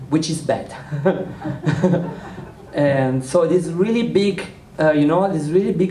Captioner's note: laughter